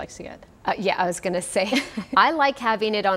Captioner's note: chuckles